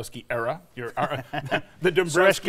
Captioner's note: laughing